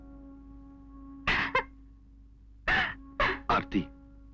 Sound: sobbing

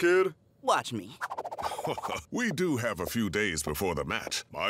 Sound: chuckling

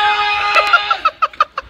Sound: laughter

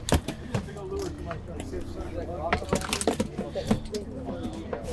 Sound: all chattering

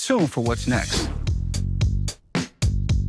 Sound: intense music; air whooshes

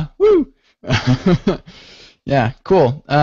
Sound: laughter

